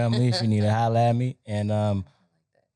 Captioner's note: chuckling